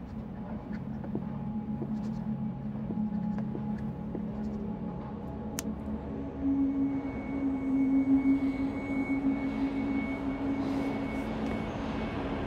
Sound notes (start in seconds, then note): 0.1 marker squeaking; 8.8 subway approaching